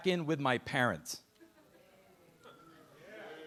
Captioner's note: audience murmuring